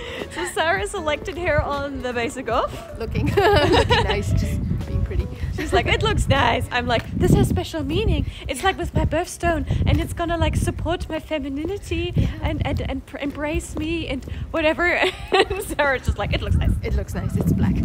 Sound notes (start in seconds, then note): 0.0 laughter; 3.3 laughter; 15.0 laugh